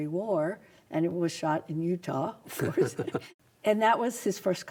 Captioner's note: laughs